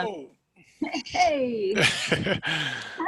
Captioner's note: laughs